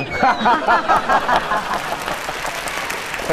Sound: laugh

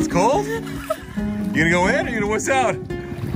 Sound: chuckles

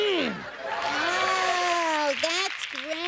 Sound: applause

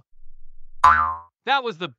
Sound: FX - Bounce

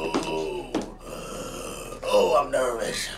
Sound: inhales

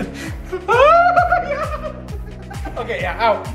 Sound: screams

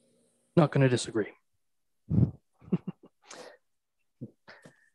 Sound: chuckles

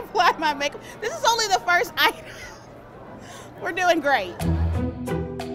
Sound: laughs

